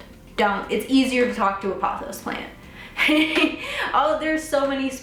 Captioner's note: laughs